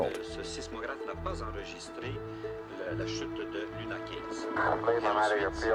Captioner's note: reporting in non-English language